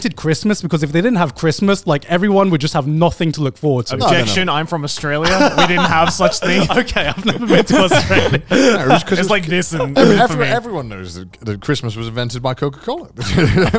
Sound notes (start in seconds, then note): 5.2 everyone laughs